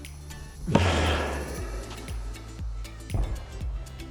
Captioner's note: ball bangs